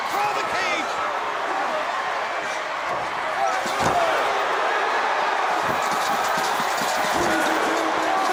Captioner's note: crowd cheering